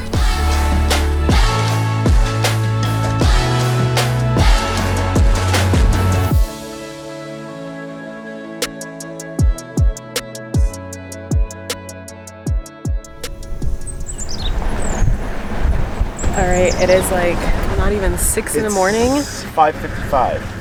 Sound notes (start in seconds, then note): 0.2 uplifting vocal music continues; 8.2 uplifting vocal music continues; 13.2 birds chirping happily